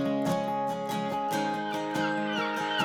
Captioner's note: seabirds squawking